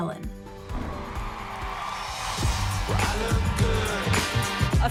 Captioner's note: audience cheering